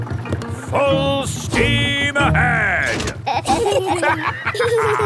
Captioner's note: lever clangs; kids and captain dog laughing